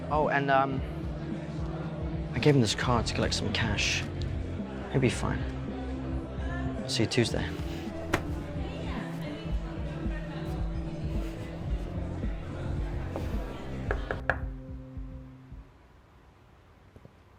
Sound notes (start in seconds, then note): 7.6 crowd chattering; 8.9 soft upbeat music; 14.6 knuckles rapping